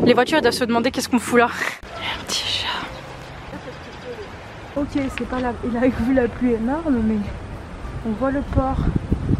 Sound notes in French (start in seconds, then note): 2.3 chuchotte